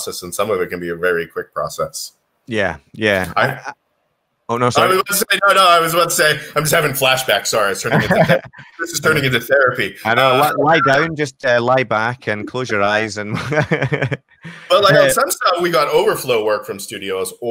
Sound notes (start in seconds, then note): 13.2 chuckles